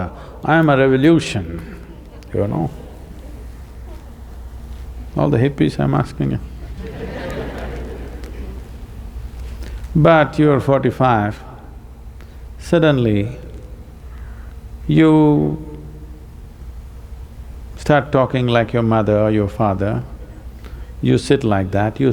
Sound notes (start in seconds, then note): 6.6 laughter